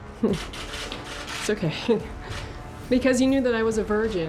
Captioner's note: chuckles